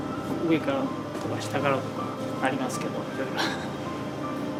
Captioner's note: laughs